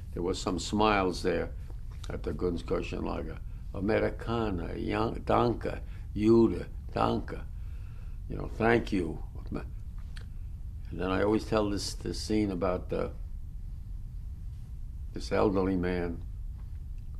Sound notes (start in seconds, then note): 3.7 non-english